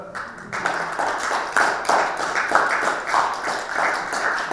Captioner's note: audience applauding